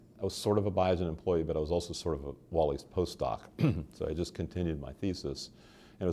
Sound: clears throat

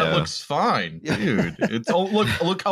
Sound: laughs

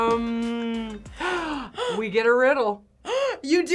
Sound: gasps

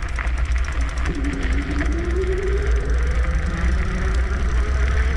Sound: motor whirring

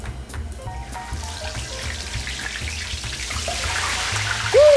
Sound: oil sizzling

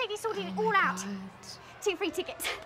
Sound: whispers

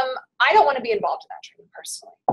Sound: voiceover

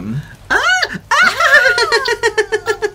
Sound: nervous Laugh

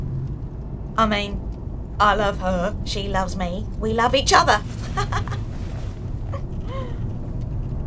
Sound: laughs

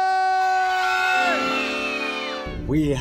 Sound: cheering

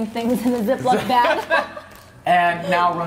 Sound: laughing

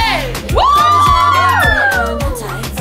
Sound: cheering at beauty

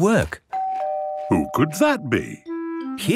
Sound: doorbell ringing

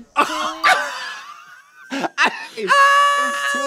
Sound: blonde women wheeze-laughing; Trixie caterwauls

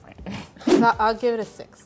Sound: scoffing

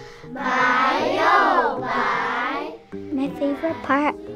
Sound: class speaking Mandarin

